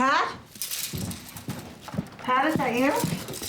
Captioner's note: rustling